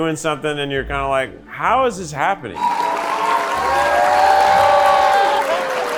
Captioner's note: audience cheering